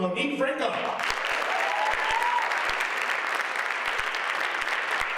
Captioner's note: audience applauds